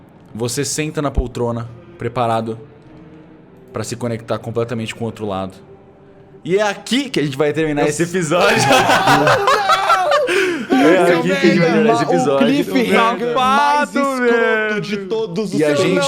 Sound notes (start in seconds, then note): 8.4 screams; 8.4 laughter